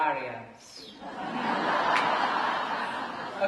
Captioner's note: laughter